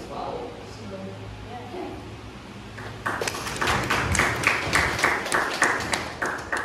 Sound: clapping

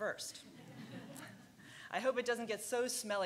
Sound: laughing

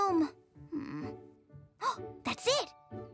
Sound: sighs; gasps

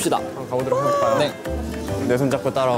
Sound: shriek

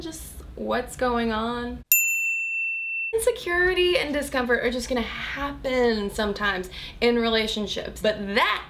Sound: bell

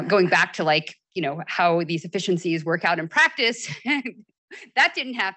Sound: chuckles

